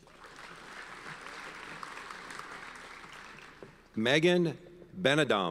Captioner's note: audience applauds